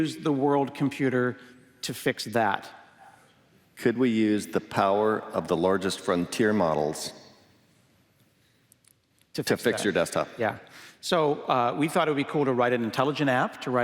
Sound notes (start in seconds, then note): none